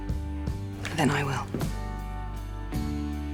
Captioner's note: voiceover